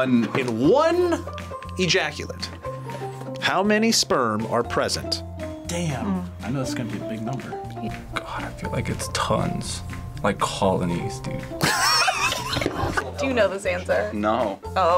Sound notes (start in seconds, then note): 11.6 laughs